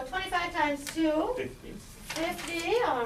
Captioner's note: voiceover